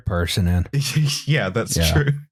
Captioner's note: laughs